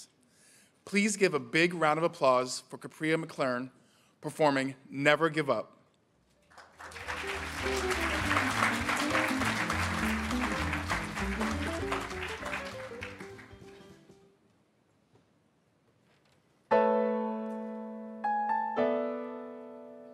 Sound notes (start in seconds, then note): 6.6 audience applauding; 7.0 upbeat jazz music; 16.7 uplifting piano music